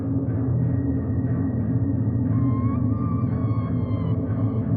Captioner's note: none